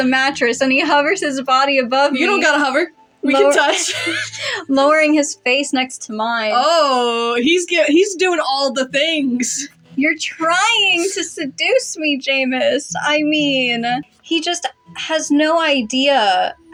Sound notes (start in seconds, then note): 3.4 both Snicker